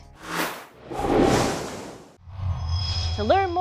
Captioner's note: sound Effects